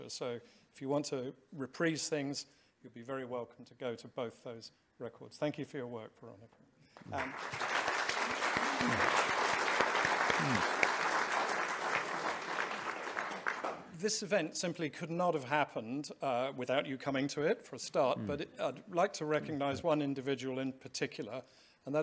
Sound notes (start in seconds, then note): 7.0 audience applauding